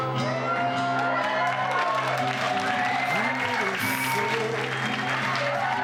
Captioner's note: crowd cheering and clapping